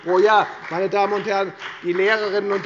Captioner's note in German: Beifall bei der FDP